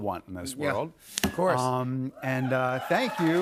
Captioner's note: cheers and applause